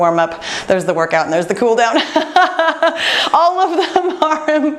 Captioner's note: laughs